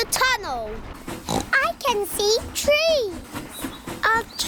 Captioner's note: oinks